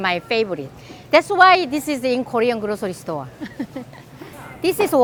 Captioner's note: laughs